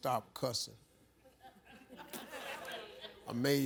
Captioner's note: audience laughs